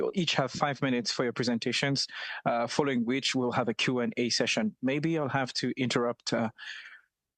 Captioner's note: speaking French